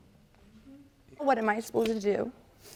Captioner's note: voice breaking